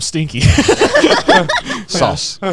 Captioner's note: everyone laughing